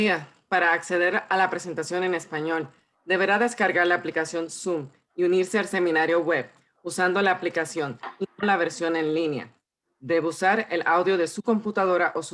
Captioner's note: translator repeats in Spanish